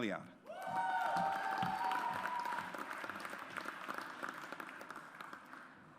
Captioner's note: audience applauds